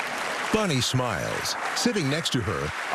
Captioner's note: cheering and applause